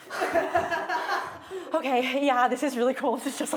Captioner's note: laughing